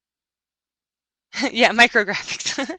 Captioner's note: chuckles